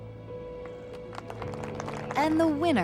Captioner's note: crowd applauds